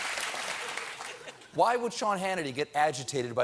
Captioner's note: applause